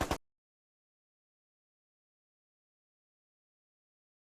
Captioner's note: machine gun fire